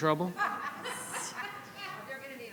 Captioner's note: audience laughing